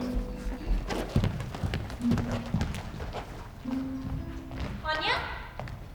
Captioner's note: footsteps exiting